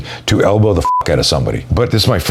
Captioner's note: beep